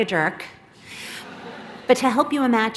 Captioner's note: laughter